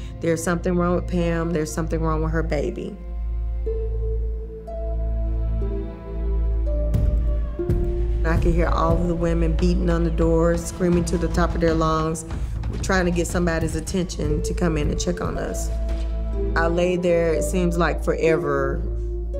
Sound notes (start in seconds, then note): 6.9 fist thumping; 6.9 woman shouting